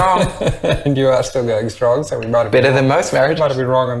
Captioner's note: laughs